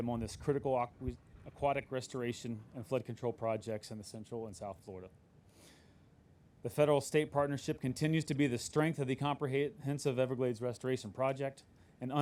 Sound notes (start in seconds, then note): none